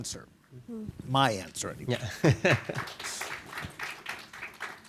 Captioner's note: chuckles